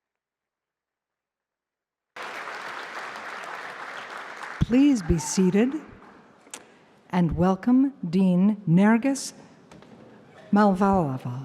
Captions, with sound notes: [APPLAUSE] Please be seated and welcome Dean Nergis Mavalvala.